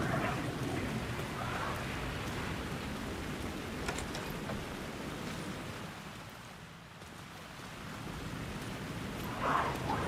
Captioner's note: footsteps, wind blows